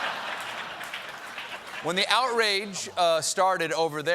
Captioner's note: laughter